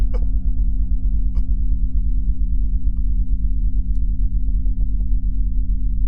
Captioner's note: moaning